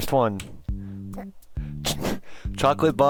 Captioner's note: holding back laughter